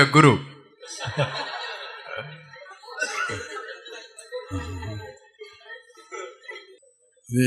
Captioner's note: laugh